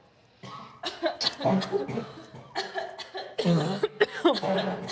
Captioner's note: inmates coughing